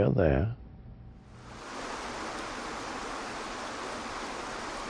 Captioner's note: water burbles